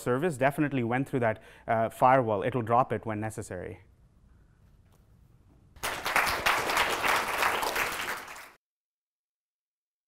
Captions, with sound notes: has definitely went through that firewall. It will drop it when necessary. [APPLAUSE]